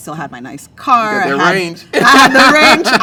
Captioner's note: laughs